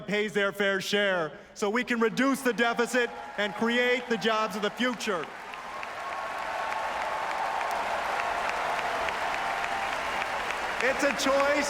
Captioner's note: applause